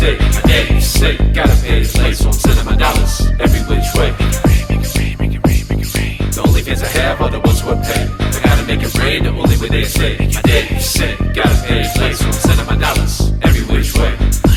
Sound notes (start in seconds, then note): 0.0 rapping; 4.2 whispering; 6.4 rapping